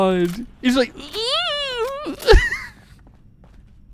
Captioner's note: deflates while laughing